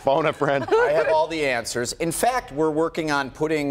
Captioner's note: laughter